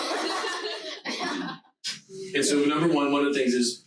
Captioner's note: laughing loudly